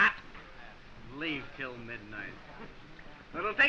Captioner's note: scoffs